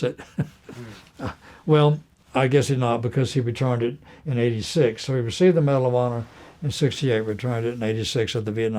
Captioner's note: laughter